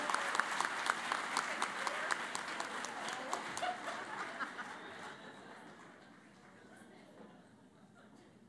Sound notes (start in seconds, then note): 0.0 laughter and Applause